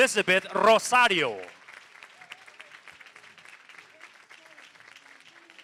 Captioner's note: applause